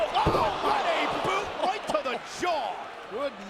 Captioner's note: body thudding; Tazz laughs